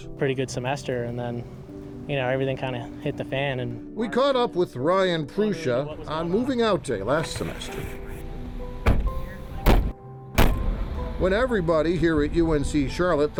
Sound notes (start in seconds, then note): 8.7 trunk lids slam; 8.8 car door slams